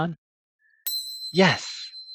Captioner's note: bell dings